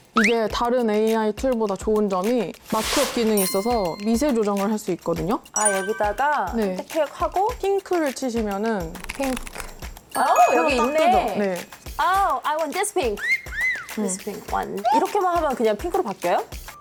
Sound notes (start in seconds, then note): 9.0 typing sounds